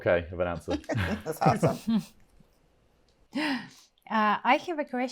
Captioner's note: panel laughs